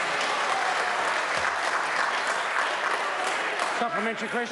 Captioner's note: members applaud